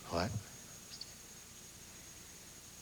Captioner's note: mumbling